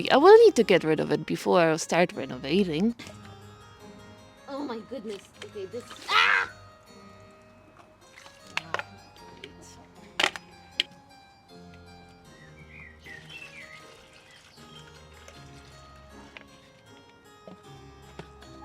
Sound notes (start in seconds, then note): 8.0 splishy splashy; 9.5 birds singing